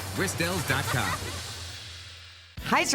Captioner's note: child laughing